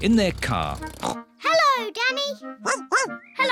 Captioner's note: snorts; barks